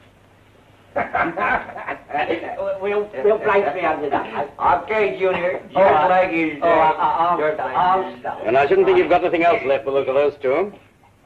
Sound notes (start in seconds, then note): 0.9 more laughter and chatter